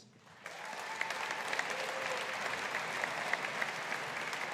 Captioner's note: audience applauding